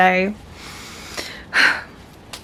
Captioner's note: short sigh